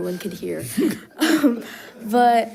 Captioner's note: participants laughing